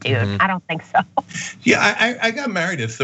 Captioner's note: laugh